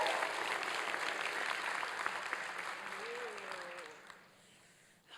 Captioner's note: applause and cheering